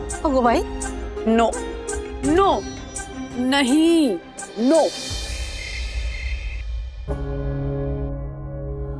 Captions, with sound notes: Oh my god! No! No! No! No! [crickets chirping]